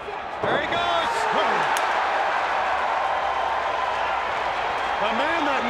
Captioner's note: audience cheers